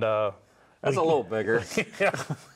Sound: laughs

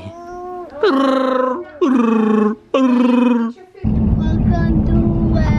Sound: playfully blubbering

